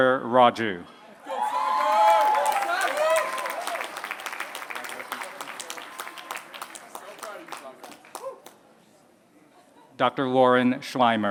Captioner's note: applause